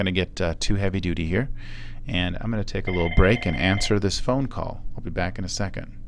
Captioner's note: phone is ringing in the background